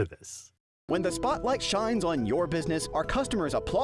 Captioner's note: voiceover